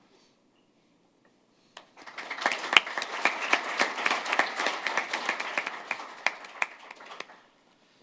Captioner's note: applause